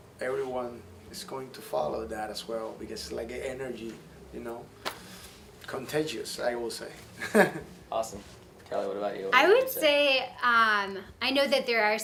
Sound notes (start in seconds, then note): 7.2 laughs